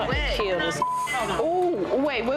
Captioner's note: beep